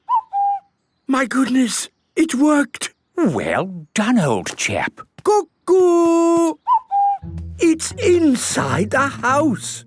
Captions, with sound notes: - (distant cuckoo) - My goodness! It worked! - Well done, old chap! - Cuckoo! - (distant cuckoo) - It's inside the house!